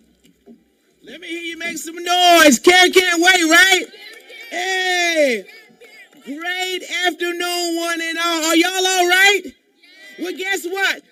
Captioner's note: cheering